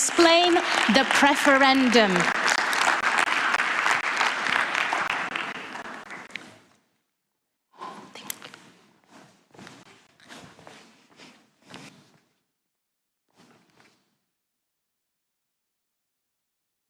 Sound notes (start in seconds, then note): 5.4 applause